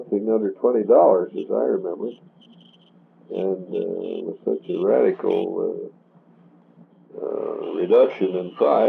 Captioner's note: buzzing noise